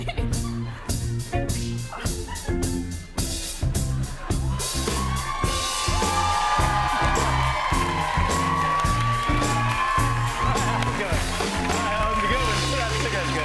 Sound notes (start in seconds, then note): 7.6 applause